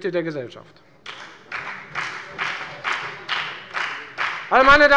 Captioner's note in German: Beifall bei der FDP